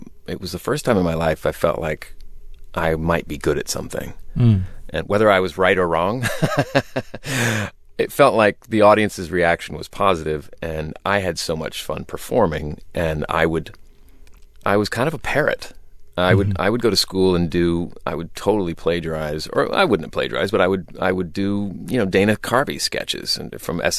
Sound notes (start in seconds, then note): 6.2 laughter